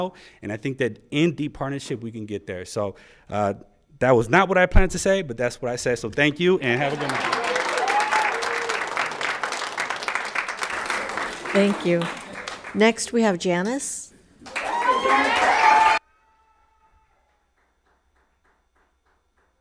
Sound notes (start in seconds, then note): 6.6 people cheer; 6.6 audience applauds; 14.4 audience applauds; 14.4 people cheer